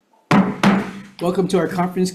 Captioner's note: gavel banging